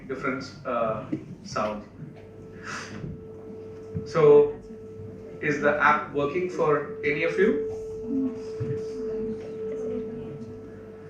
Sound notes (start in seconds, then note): 2.0 frequency app starts & noise begins to emit